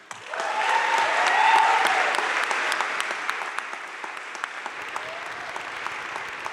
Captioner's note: crowd cheering and applauding